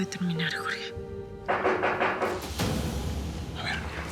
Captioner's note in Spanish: Tocan a la puerta